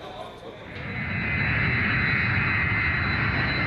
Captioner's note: airplane takeoff